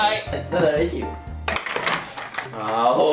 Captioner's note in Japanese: 魔王が投げる音